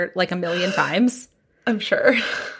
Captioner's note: gasps